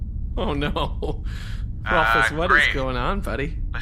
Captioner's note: laughing